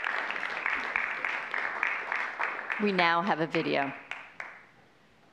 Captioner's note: applause